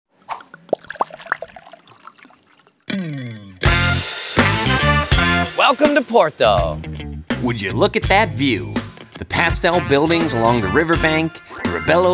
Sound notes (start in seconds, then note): 0.2 liquid pouring; 3.7 upbeat music